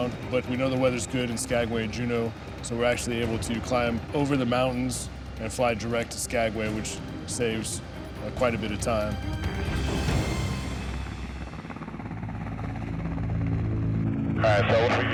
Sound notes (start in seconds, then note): 11.1 helicopter whirring